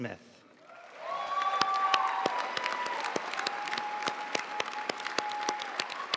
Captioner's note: audience cheering and applauding